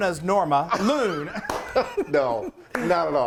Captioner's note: laughing